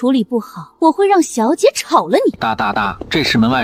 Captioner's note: tap tap tap